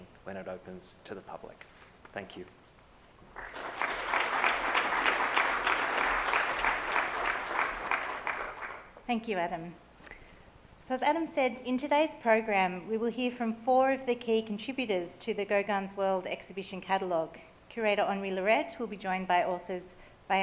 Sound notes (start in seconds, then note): 3.2 audience applauds